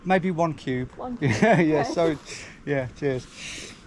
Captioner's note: laughs